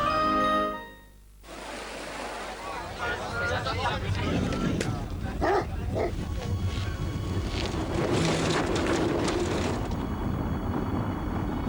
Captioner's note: dog barking